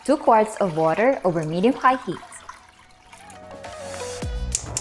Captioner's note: water trickling; claps hands; clicks stove